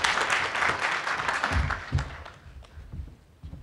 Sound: applause

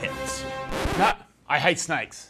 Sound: record scratching

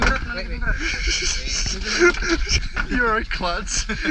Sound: laughter

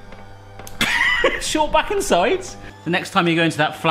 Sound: laughs

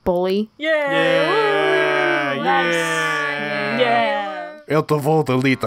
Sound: Thunderclan cheering

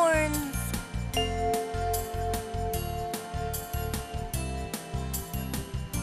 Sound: bell chimes

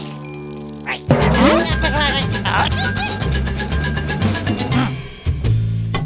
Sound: grumbling

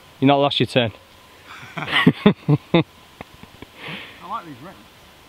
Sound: laughs

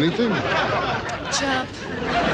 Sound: audience laughs

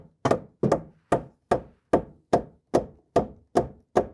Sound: hammering

